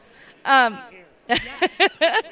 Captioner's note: laugh